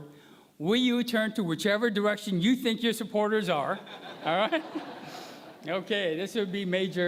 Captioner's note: laughter